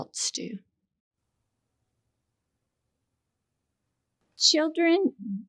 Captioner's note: silence